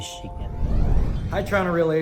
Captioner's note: transition sound